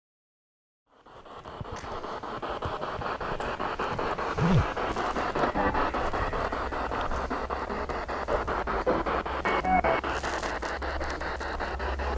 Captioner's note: noise of the spiritbox in the background